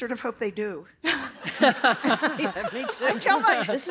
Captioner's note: laughter